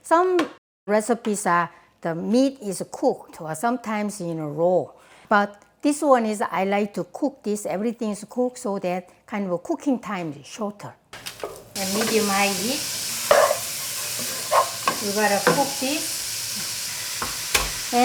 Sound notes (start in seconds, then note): 13.6 pan sizzling